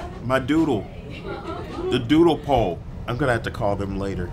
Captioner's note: laugh